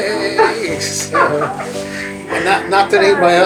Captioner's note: chuckles